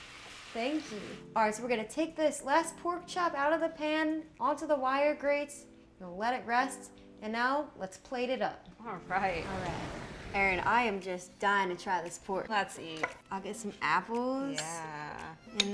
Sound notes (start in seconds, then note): 9.1 waves crashing; 13.0 fork clattering; 13.6 light music